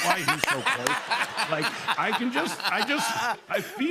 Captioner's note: laughter